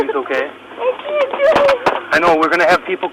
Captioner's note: cries